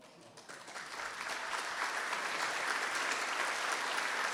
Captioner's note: audience applauding